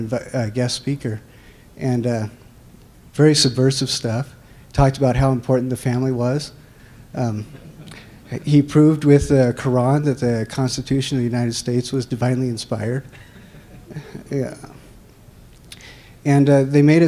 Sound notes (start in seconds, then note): 7.4 laughter; 13.2 laughter